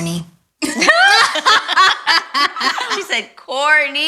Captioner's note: all laugh